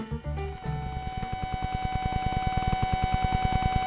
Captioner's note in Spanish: murmullo estático